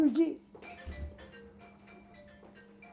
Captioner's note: phone ring